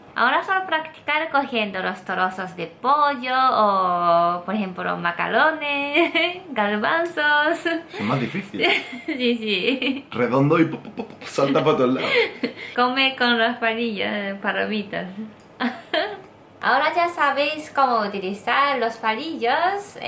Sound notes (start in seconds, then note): 7.8 giggles